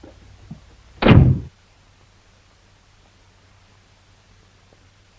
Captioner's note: door thuds